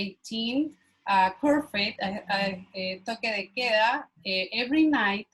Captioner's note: foreign language